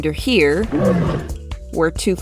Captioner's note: small growl